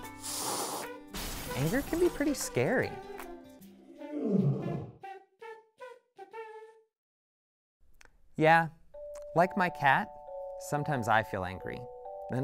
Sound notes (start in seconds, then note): 0.2 cat hisses; 4.0 cat growls